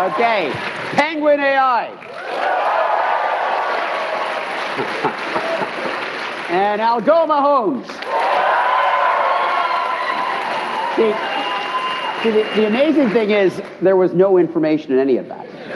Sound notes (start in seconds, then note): 0.0 cheering; 1.7 applause; 5.8 cheering; 6.3 applause